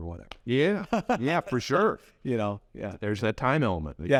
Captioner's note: laughs